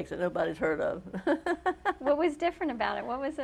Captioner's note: laughs